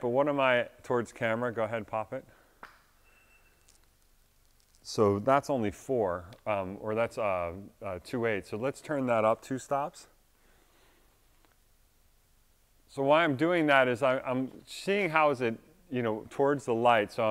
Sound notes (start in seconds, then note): 3.0 meter beeps